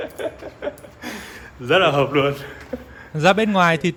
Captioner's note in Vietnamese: tiếng cười